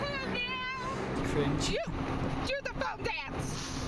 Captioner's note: mumbles